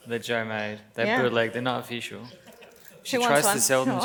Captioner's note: laughs